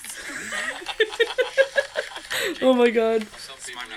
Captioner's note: laughing